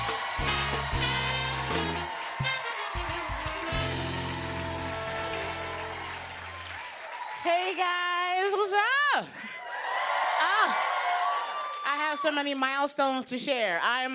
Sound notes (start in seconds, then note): 0.0 cheers and applause; 9.4 cheers and applause